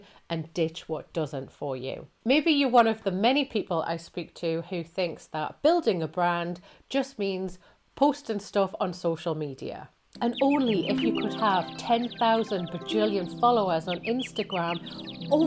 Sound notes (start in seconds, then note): 10.2 birds chirping